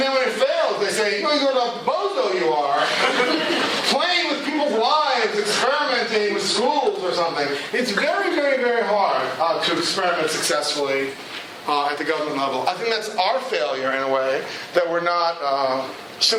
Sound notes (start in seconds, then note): 2.8 laughter